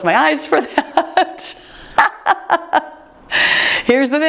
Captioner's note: laughing